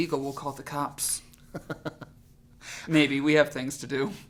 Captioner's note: laughing